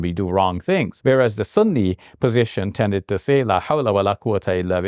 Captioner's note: speaks in Arabic